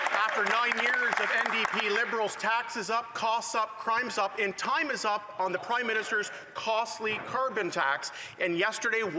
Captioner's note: some Applause